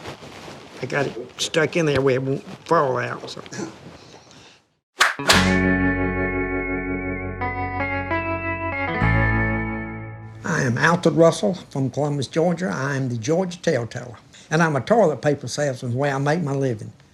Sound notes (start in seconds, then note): 5.0 whip cracking; 5.0 lively music